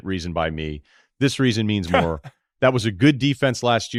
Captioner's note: laughs